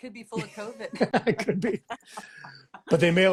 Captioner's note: laughs